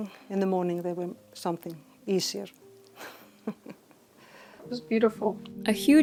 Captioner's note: chuckles